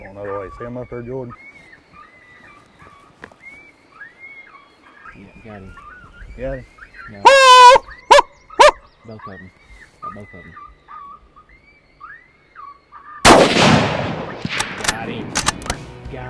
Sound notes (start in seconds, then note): 3.8 coyote call continues; 13.2 gun shot